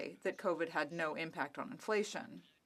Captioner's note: speaking French